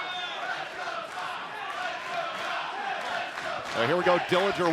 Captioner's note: fans chanting